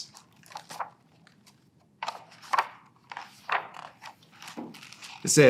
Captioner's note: pages rustling